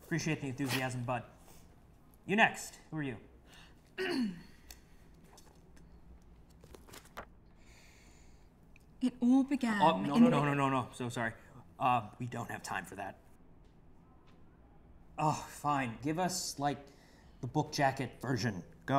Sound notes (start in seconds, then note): 3.9 clears throat; 7.5 deep breath